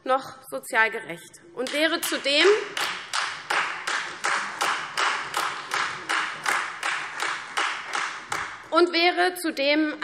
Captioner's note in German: Beifall CDU, Freie Demokraten und vereinzelt AfD